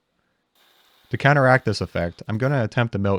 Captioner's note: mill whirring